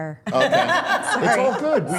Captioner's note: laughing